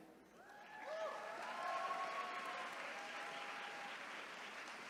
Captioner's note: attendees cheering